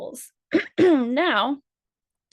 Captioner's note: clears throat